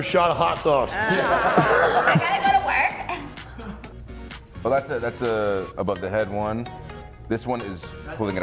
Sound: laugh

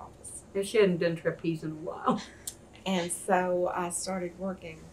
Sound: laughs

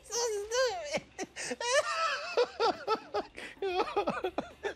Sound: laughing

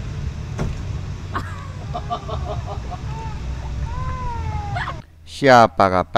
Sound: laughing; crying

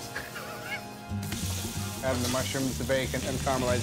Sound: food sizzling

